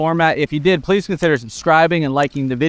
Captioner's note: mouse clicks